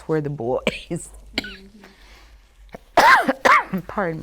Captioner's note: coughing softly